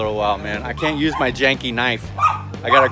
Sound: dog barking

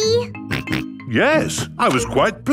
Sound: snorts

